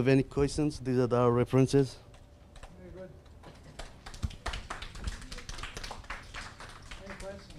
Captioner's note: audience applause